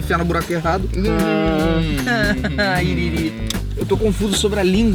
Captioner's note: immature noises